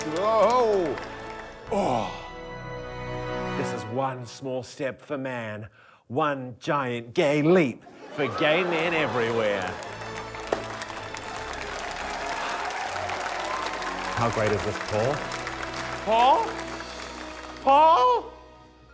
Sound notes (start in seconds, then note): 7.8 laughter; 10.7 applause, cheering